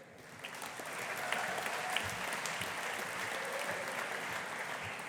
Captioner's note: audience applauding